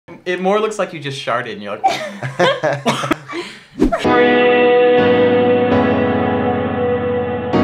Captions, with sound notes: It more looks like you just sharted. [Laughs]